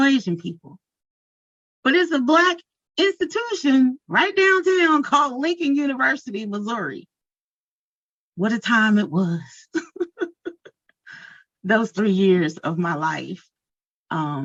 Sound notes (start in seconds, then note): 9.8 chuckles